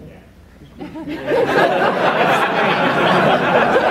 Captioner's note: laughter